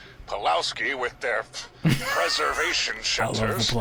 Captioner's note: laughing